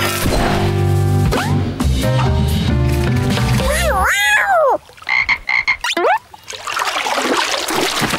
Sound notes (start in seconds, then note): 3.7 meowing; 5.0 croaking